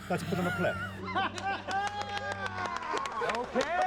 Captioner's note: clapping, laughter